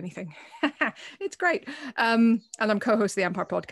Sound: she chuckles

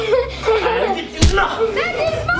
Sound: fist thumps

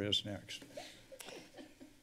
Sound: laughter

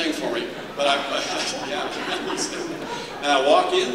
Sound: laughter

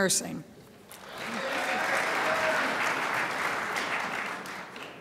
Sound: crowd applauds

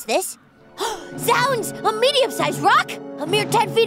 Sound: gasp

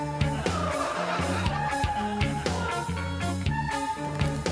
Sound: crowd laughs

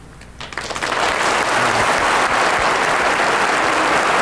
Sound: audience applauding

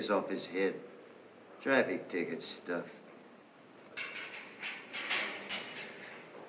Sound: keys clanking

